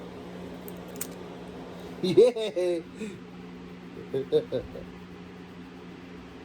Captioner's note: Ella giggles